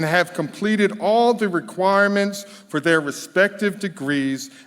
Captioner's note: none